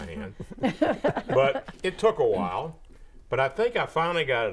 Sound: laughing

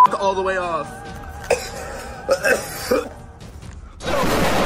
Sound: coughing

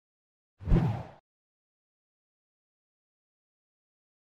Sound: air whooshes

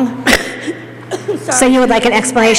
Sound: coughing

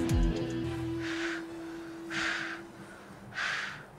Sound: heavy breathing

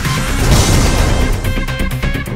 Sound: explosion

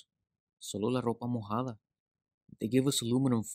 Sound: actor speaking Spanish

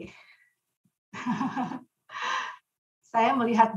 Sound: laughing

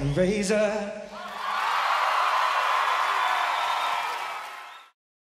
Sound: audience cheering

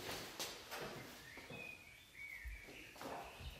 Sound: birds chirping

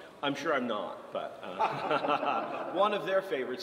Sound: laughs

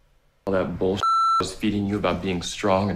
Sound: beep

